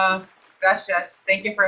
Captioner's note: in Spanish